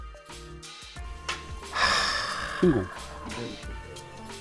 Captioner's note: deep sigh